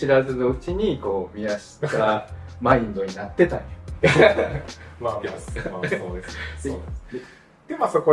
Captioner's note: laughs